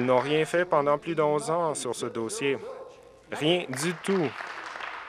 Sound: applause

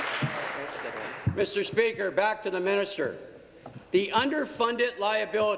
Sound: applause

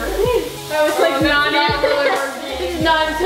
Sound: laughing

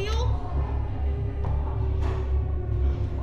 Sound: eerie noises

